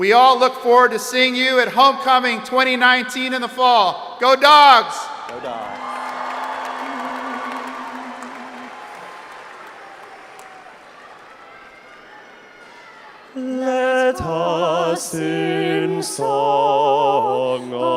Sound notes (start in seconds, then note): 5.2 crowd applauding; 6.7 crowd cheering